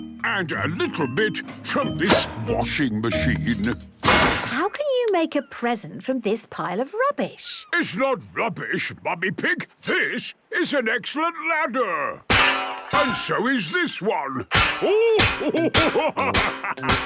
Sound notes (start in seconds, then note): 12.3 clanging; 14.8 laughing